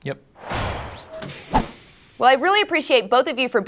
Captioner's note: whoosh